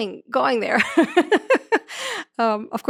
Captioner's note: chuckles